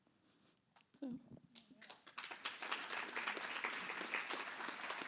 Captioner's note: applause